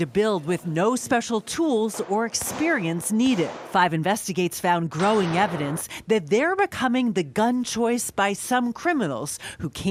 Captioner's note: gunshot